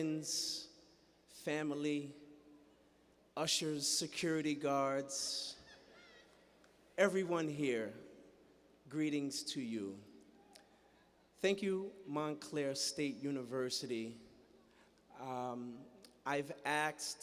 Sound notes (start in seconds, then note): 5.1 laughter